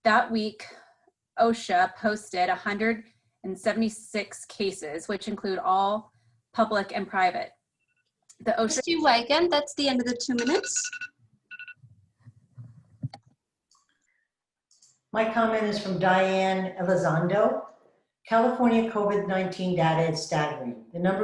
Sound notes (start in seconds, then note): 10.0 alarm goes off